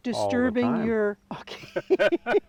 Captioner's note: laugh